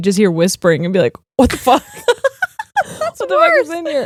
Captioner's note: both laughing